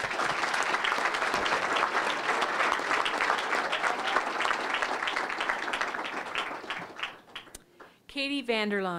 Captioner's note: applause